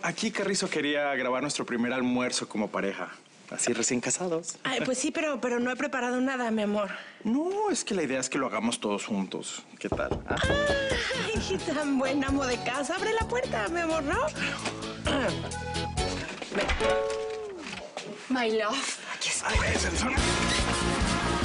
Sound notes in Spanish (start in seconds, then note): 9.9 Toques en la puerta; 15.0 Carraspea